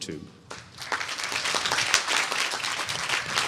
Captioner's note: applause